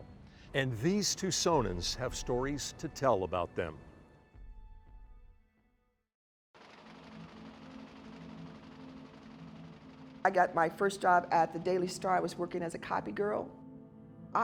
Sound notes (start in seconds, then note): 6.6 printer chugging